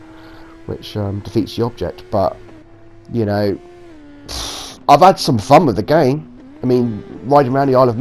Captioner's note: sigh